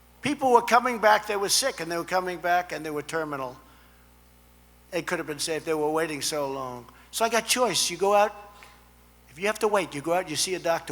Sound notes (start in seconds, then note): none